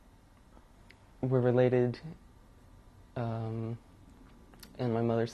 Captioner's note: pauses for 3 seconds; pauses for 3 seconds